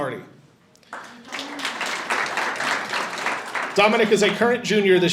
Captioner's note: audience applauding